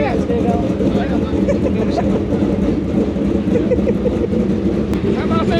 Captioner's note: laughing